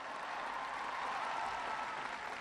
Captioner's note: applause